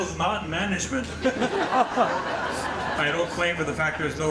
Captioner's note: audience laughing